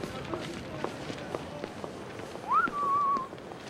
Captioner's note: whistles